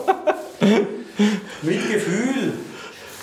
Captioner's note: laughter